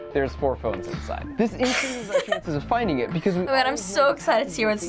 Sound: laughing

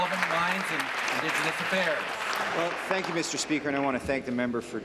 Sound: applause

